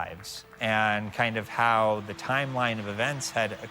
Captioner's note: crowd cheering